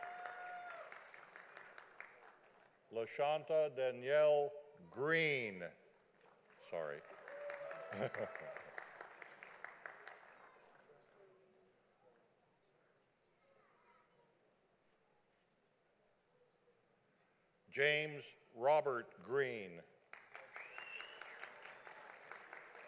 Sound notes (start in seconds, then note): 0.0 audience applauding; 8.0 laughing; 8.9 audience applauding; 20.1 audience applauding